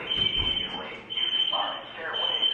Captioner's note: alarm blares